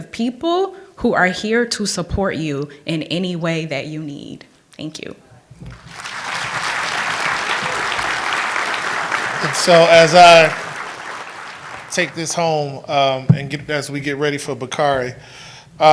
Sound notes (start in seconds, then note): 5.6 applause